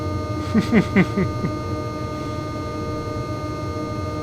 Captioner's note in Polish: śmiech